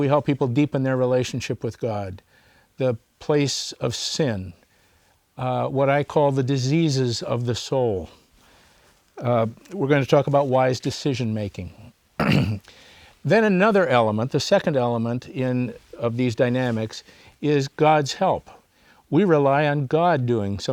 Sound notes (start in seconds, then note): 12.2 clears throat